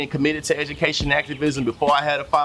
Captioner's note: birds Chirping